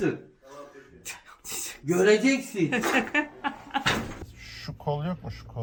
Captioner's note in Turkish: Gülüşmeler